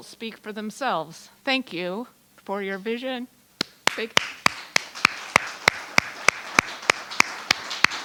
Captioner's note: clapping